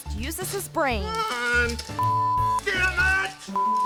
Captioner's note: beep